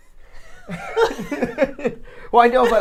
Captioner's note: both laughing